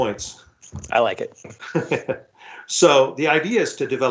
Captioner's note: chuckles